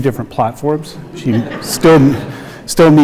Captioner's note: audience laughs